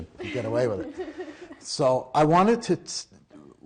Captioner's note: laughing